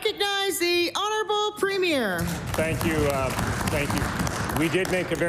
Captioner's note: applause